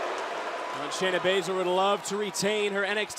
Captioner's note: crowd cheering